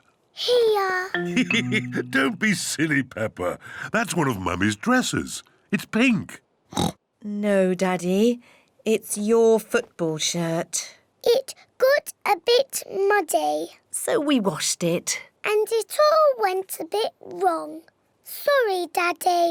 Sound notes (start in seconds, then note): 1.2 laughs; 6.7 oinks